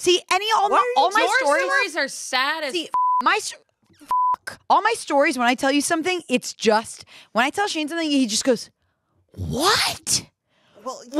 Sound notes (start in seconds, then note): 2.9 beep